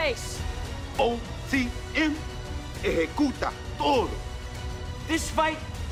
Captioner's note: spanish language